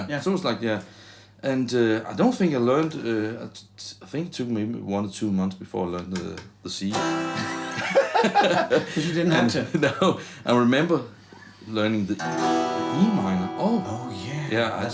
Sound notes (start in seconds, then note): 7.2 laughing